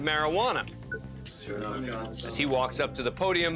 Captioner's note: indistinct chatter